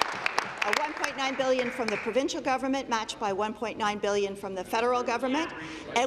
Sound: applause

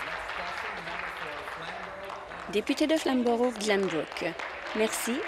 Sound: applause

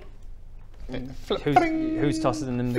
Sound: b-ring!

